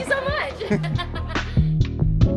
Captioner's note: laughing